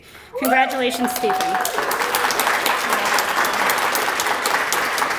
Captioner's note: applause